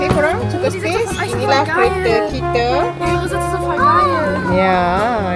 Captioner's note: speaking German